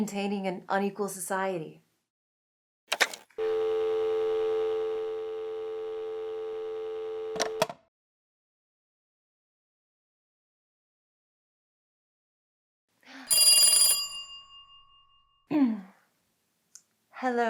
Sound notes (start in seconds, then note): 3.4 dial tone; 7.3 phone rings